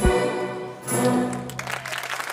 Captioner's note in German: Jubel, Applaus